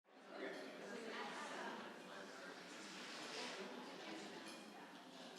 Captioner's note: audience chattering faintly